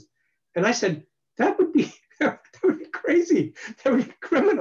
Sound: laughs

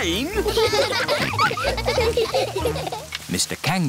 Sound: all laughing

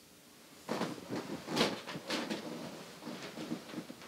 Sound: bed creaking

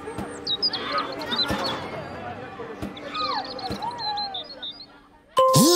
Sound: birds chirping

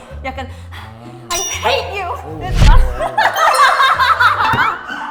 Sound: kiss

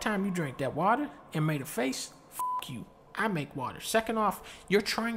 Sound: beep

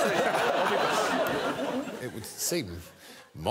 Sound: crowd laughs

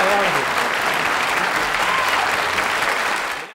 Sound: crowd applauds

